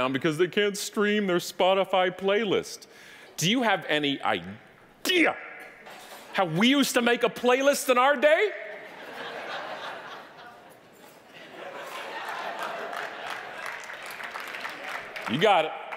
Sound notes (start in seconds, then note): 8.8 audience laughing; 13.4 audience applauding